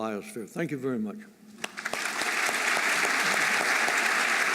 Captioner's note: applause